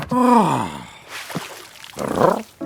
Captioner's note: Big Lizard sighs; water sloshes; big Lizard purrs